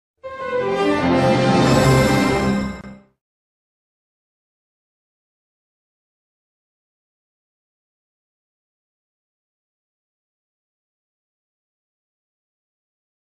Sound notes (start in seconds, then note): 0.2 orchestral music plays; 4.1 silence